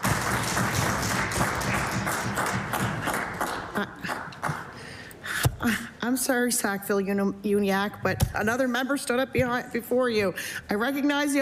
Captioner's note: applause